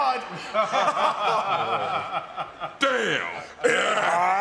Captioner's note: everyone laughing